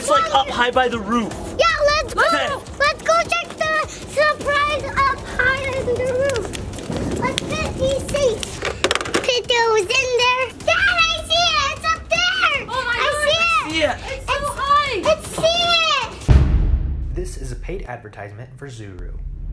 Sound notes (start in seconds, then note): 16.2 dramatic boom